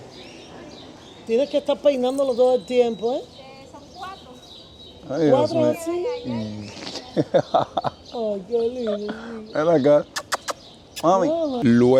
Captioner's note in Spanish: risas